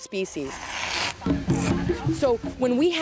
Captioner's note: lynx hisses